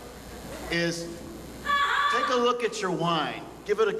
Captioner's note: women yells